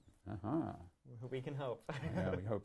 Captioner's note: laughs